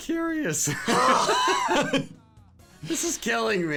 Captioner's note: laughing